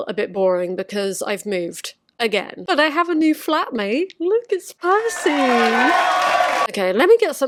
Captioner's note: applause